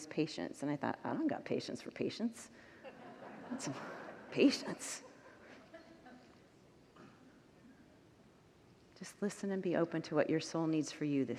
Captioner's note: congregants laugh